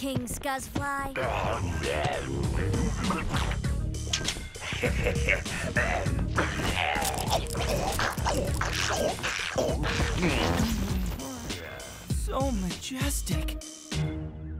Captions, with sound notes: King Scuzzfly. [laughing] [munching] So majestic.